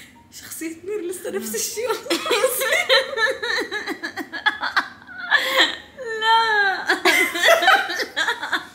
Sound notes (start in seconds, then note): 2.1 both laughing; 6.2 laughing